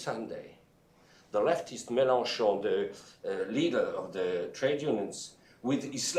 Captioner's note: speaking french